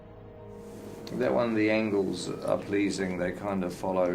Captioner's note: none